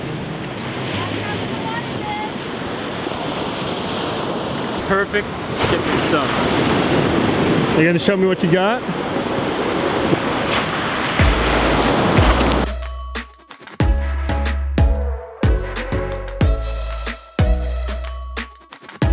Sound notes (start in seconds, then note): 1.6 rolling waves; 11.2 upbeat music